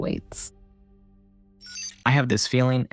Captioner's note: glitchy fragments of signal